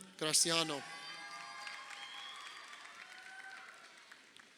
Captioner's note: crowd cheering